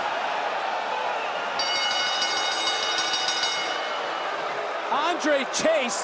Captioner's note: bell rings